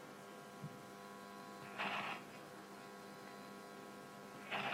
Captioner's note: static buzzing continues